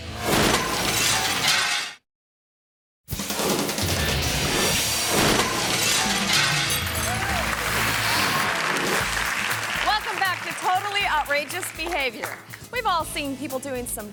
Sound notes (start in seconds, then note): 0.3 glass shatters; 3.1 energetic music; 4.9 glass shatters; 6.9 audience cheering and clapping